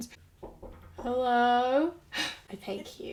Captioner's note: knocking on the door